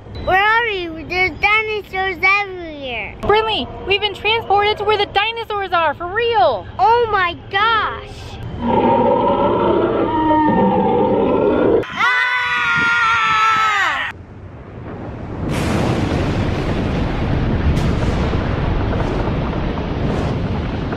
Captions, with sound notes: where are we there are dinosaurs everywhere brinley we've been transported to where the dinosaurs are for real oh my gosh [dino roars] [screams] [loud rumbling]